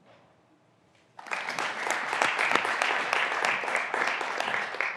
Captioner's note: graduands applauding